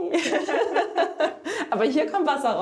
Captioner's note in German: Sie lachen